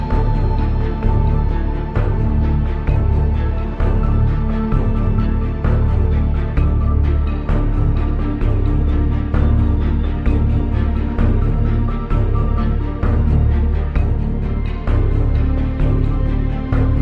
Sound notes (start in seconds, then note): none